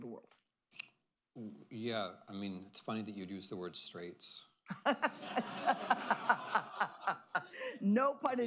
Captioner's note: laughter